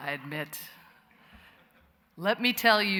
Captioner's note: laughter